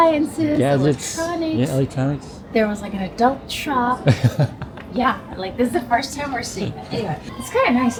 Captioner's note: laughter